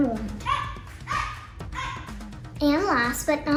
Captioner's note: Vivien grunts